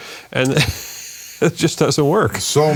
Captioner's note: laughing